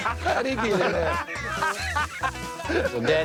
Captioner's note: laughter